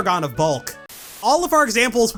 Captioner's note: static